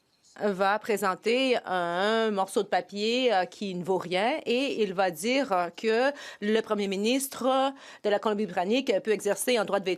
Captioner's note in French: voix de l'interprète